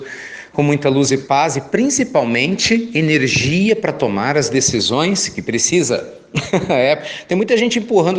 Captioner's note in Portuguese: Risos